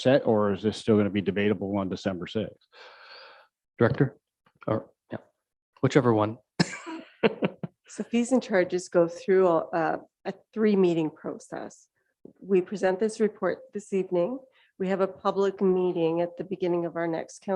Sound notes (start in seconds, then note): 6.6 laughing